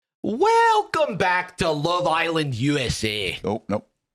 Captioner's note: scottishly